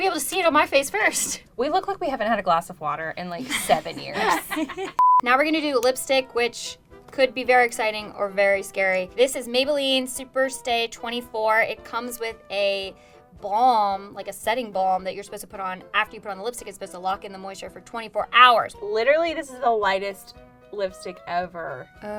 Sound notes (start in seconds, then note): 3.4 laughing; 5.0 beep